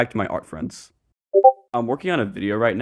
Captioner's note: Discord ping sound effect